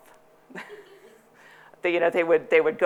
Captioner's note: chuckling